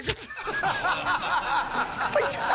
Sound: laughter

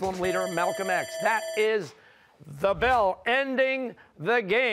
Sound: bell rings

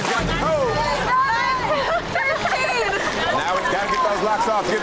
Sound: laughing

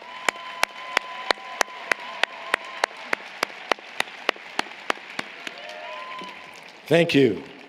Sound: applause, Cheering

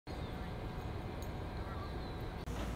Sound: soft background chatter

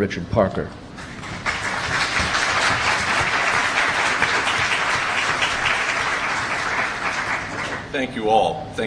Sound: applause

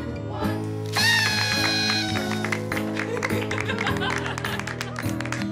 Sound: party horn, laughter, applause

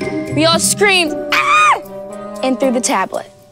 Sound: screams

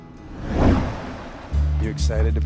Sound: lighthearted guitar music; engine roaring

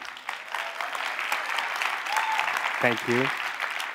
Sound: applause

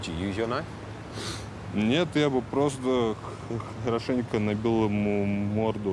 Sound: speaking in foreign language

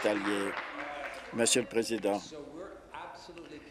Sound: applause

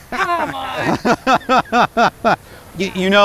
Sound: laughing

